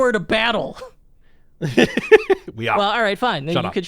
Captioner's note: laughs